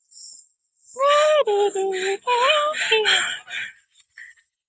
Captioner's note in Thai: ฮัมเพลง